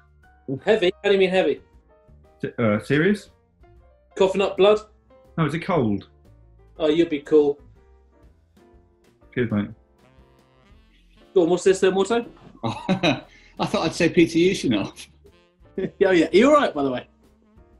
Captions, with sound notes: Heavy? How do you mean 'heavy'? Er, serious? Coughing up blood? No, it's a cold. Oh, you'll be cool. Cheers, mate. Go on, what's this then, Watto? [CHUCKLES] I thought I'd say Peter Ustinov. Oh, yeah – are you alright, by the way?